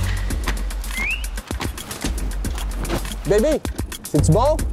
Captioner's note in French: sifflement